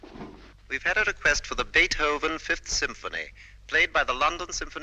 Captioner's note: radio broadcast